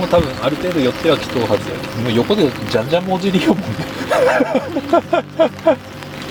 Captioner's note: laughs